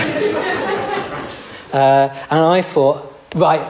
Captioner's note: laughter